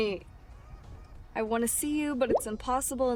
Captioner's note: text bubble pops